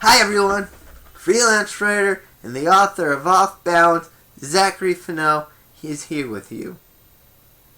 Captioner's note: chair squeaks